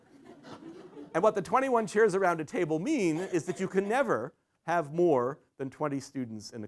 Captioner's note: laughter